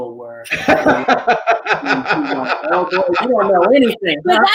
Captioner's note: chuckling